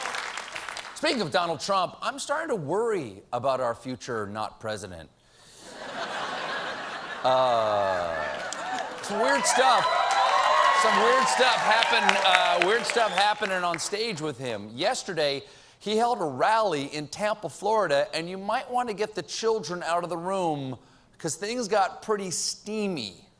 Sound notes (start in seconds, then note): 0.0 applause; 5.6 laughter; 8.1 applause